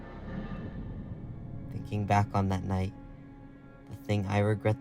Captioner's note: voiceover